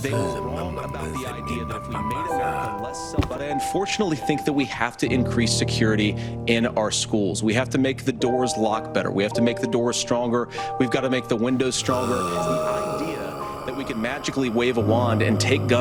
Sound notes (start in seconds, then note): 0.0 mumbling; 11.5 moaning